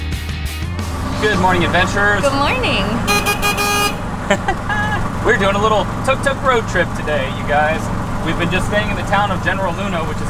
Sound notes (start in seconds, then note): 3.0 tuk Tuk honk; 4.2 laughs